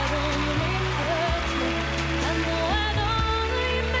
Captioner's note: applause